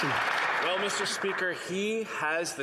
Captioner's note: some Applause